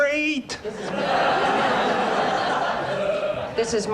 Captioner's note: audience laughs